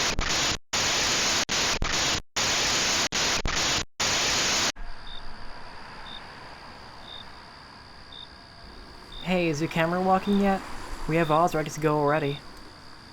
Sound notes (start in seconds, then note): 0.0 crackling static plays; 4.7 crickets chirp